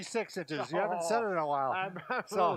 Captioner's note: laughs